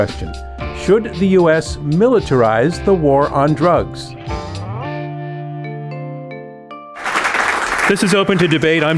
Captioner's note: applause